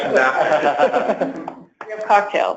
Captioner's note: laughter